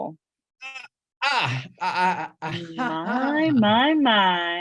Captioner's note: chuckles